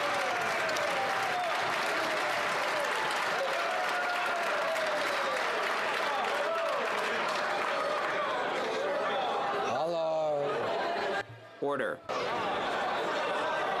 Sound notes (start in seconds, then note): 2.4 some Applause